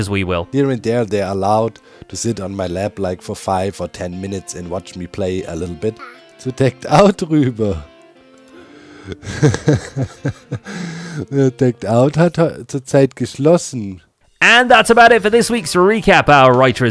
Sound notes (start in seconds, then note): 5.9 baby noises; 12.4 speaks German